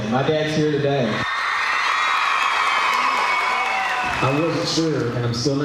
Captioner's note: crowd cheers